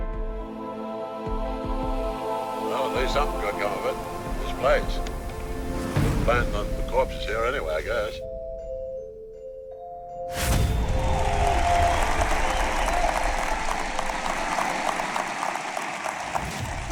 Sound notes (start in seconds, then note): 10.8 applause